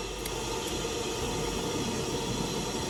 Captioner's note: ligher strikes